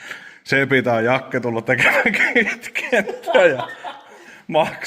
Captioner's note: laughter